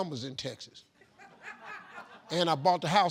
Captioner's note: group laughing